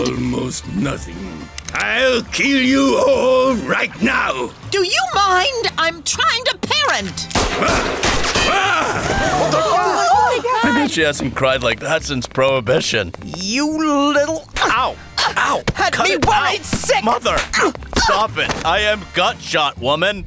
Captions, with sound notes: Almost nothing. I'll kill you all right now. Do you mind? I'm trying to parent. [GUNSHOTS] Ah! [GASPING] Oh my god! She hasn't some cried like that since Prohibition. You little-- Ow! Ow! Had me worried sick! Cut it out! Mother. Stop it. I am gut-shot, woman.